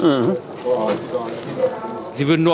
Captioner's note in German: Stimmengewirr